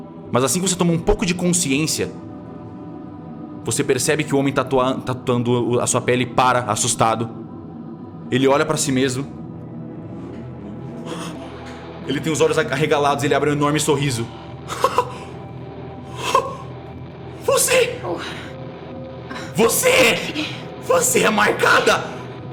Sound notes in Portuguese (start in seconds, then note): 14.7 pequena risada